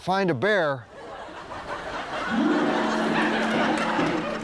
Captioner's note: audience laughs; suspenseful music